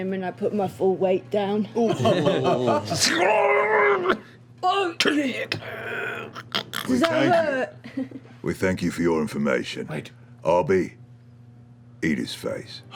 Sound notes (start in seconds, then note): 2.7 gargled screaming